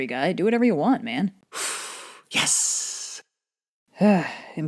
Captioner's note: breathes in